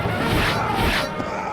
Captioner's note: slashing